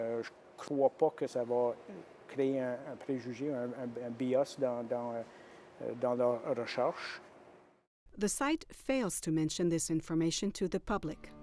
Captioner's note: speaking French